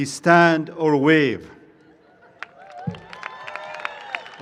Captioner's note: cheering and applause